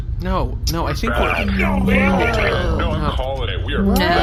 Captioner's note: exhausted